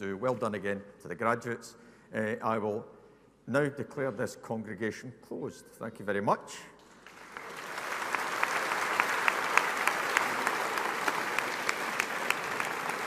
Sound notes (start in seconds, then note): 7.0 audience applauding